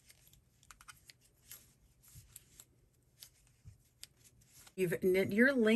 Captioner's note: knitting needles clicking together